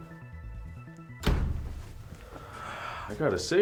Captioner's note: door thuds; sighs